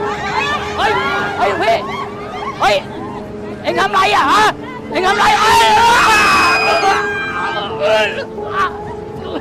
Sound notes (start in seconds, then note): 5.0 people screaming